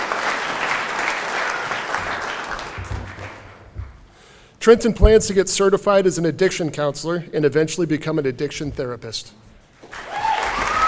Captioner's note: cheering and Applause